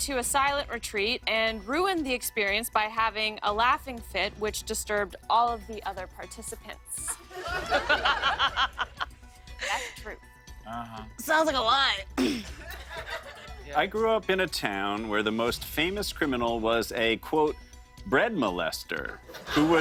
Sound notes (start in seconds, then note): 7.1 laughter; 12.1 clears throat; 19.2 laughter